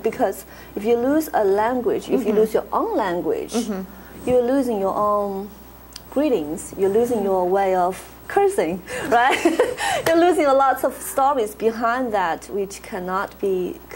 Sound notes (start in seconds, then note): 9.0 laughs